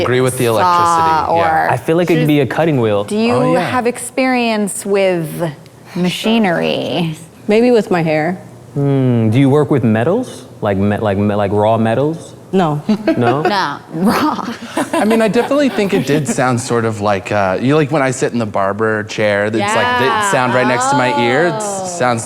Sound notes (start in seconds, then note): 13.9 laughs; 13.9 guests laughing